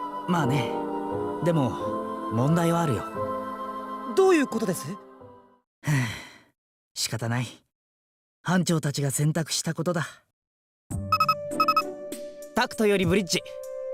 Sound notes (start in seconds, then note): 5.8 sigh